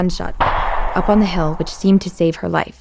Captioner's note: gunfire booms